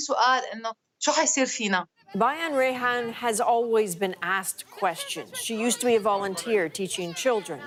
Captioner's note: spoking foreign language